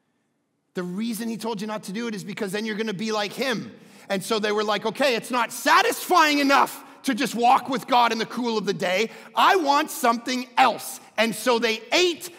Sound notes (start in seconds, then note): none